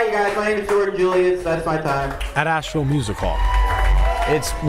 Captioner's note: cheers